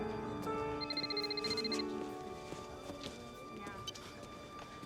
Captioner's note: cell phone ringing